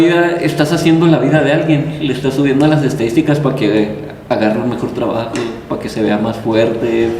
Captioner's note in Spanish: carraspeo